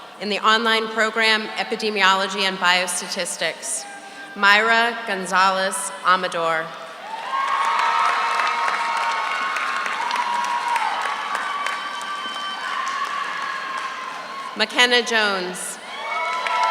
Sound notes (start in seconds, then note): 7.0 audience cheers; 7.1 audience applauds